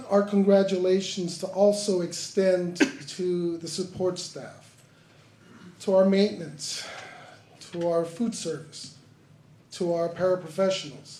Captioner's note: sighs